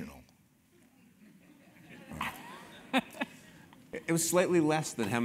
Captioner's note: laugh